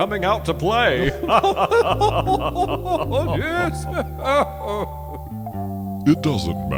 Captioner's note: chuckles